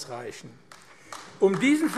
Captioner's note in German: Beifall AfD